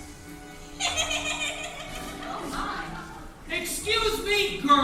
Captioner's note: Ernestina laughing